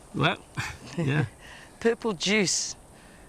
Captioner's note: chuckling